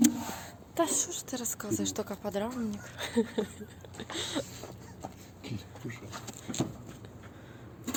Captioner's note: laughs